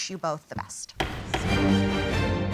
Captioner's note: gavel bangs